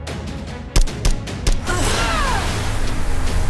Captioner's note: popping